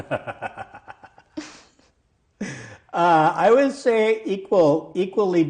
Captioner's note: laughing